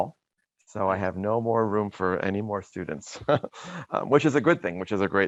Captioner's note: laughs